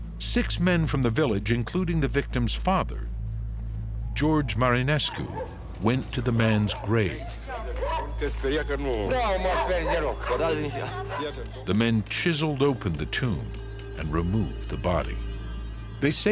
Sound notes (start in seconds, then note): 8.3 speaking Romanian